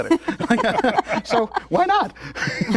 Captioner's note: laughter